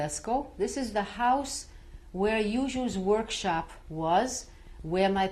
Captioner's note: non-english